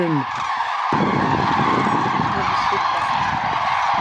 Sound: birds squawking

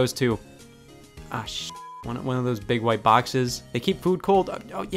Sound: beep

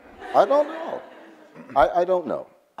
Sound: audience laughs

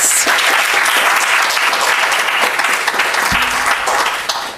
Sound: audience applauds

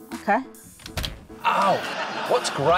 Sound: clunk!

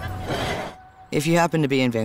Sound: dish sliding

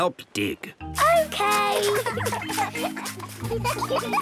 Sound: giggling

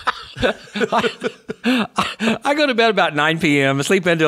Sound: laughs

